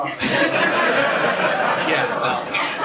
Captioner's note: laughter